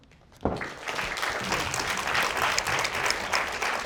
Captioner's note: audience applauds